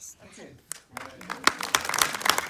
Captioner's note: applause